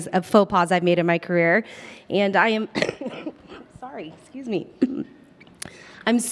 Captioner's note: coughs